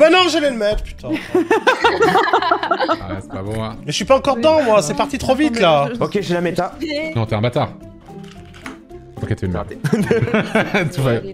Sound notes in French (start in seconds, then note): 1.1 Rires; 9.8 rient